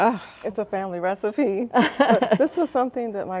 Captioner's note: both chuckling